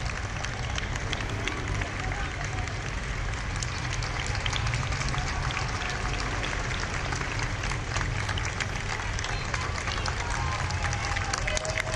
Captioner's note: applause